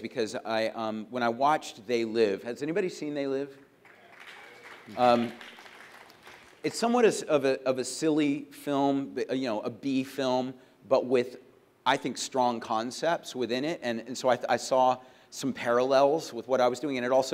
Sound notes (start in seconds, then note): 3.6 applause